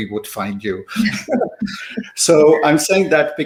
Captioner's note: laughter